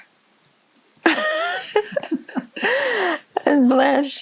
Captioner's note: both giggling